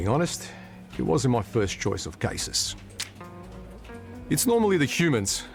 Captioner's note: clicks tongue